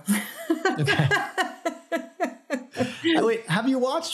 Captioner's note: laughter